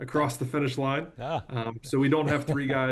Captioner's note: laughs